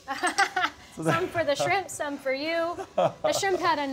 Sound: laughs; laughs

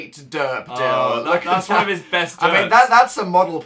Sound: laughs

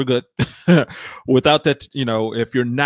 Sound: laughs

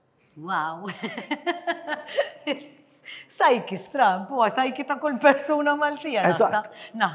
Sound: laughs

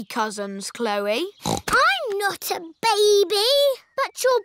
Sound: snorts

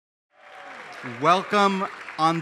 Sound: applause

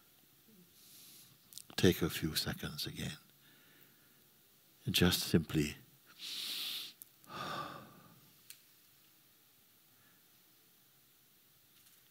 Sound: inhales and exhales deeply

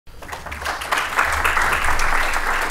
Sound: applause

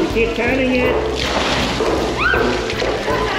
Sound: water splashes

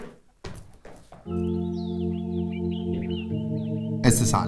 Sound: birds chirping

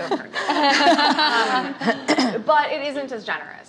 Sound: laughing

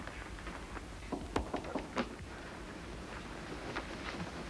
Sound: knocking

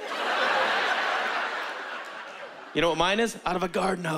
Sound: laughter

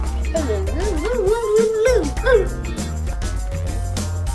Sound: vocalizing

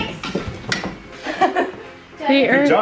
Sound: laughs

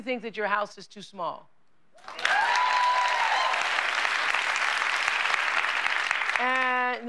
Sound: cheers and applause

